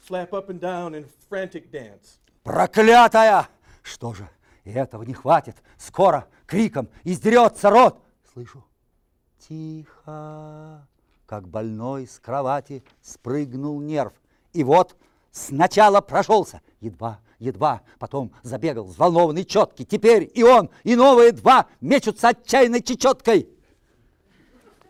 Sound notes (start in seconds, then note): 2.7 reciting poem in Russian